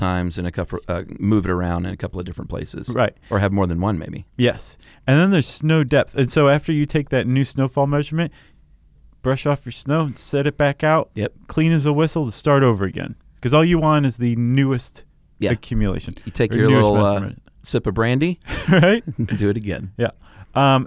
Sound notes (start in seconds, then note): 19.0 laughing